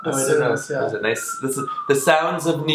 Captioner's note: police siren